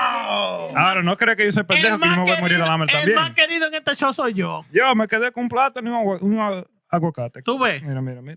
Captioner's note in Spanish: Hablando en idioma extranjero